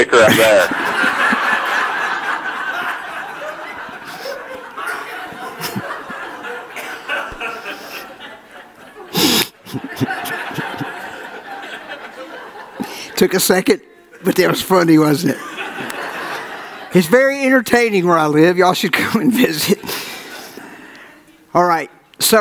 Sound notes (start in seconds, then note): 10.8 audience laughs; 12.4 laughing